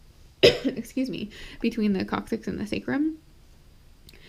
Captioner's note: coughs